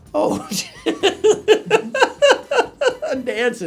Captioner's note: laughing